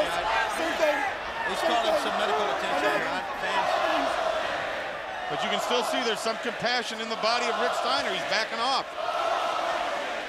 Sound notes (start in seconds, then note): 2.2 crowd chatter; 8.0 crowd chatter